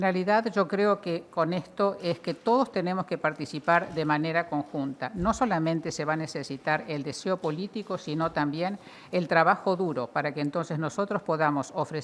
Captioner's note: foreign language